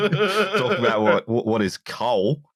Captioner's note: laughter